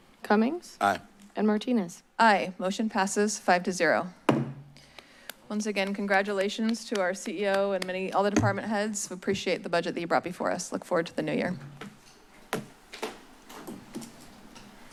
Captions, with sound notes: - Cummings? - Aye. - And Martinez? - Aye. Motion passes five to zero. [gavel tap] Once again, congratulations to our CEO and all the department heads. We appreciate the budget that you brought before us. Look forward to the new year. [rustles]